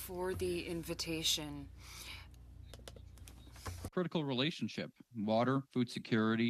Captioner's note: speaking French